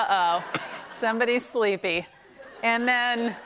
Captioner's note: laughter